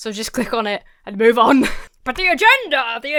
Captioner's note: laughs